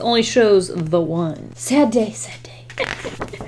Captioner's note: chuckles